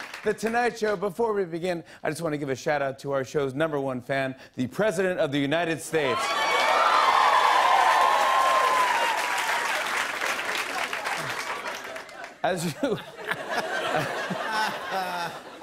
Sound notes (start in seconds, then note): 6.1 cheers and applause; 13.3 laughter